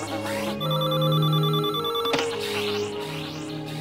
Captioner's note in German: Signal ertönt; Telefon klingelt; Fliegen summt und Signaltöne dröhnen durch Telefon